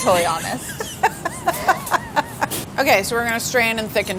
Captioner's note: laughter